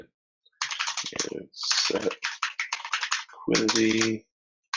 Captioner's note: keyboard keys clanking